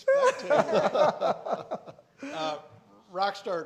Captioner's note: all laughing